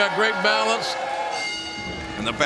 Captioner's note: bell ringing